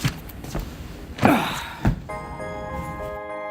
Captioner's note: sigh